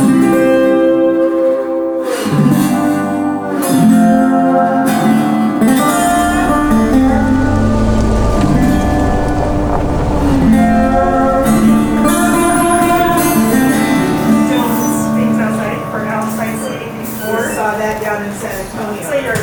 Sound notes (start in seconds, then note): 8.2 car engine humming; 10.2 tires scrunching; 14.9 door squeaks